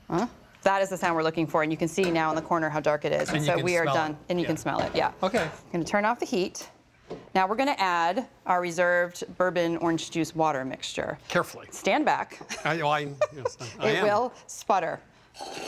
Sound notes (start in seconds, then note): 13.1 laughs